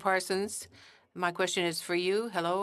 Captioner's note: speaking in French